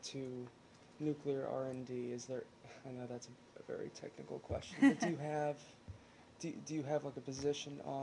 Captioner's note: laughter